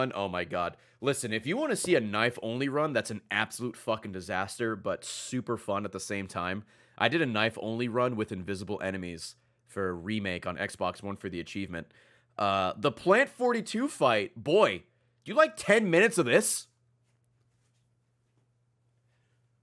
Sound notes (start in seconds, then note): none